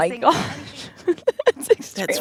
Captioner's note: laughter